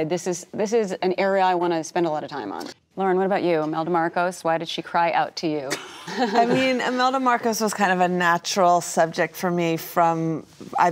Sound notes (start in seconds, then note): 5.7 laughing